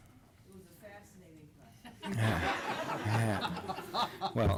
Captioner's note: laughter